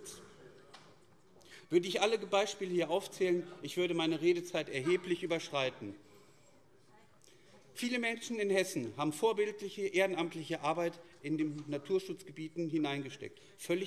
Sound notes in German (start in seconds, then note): none